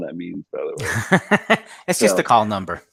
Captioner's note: laughs